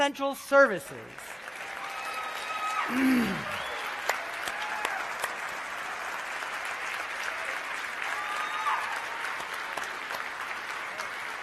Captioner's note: applause